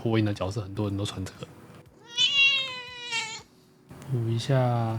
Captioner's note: cat howling